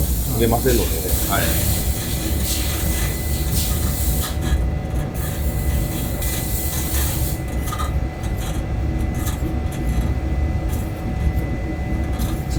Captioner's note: sound of melting abrasive material